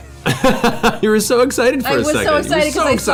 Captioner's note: laughs